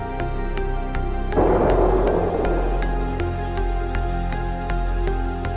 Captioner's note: explosion booms